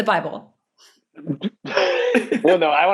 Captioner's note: laughing